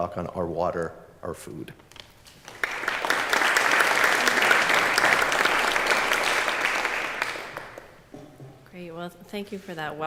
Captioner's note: applause